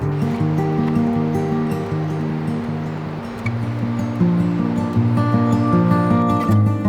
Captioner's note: acoustic guitar music; water rushing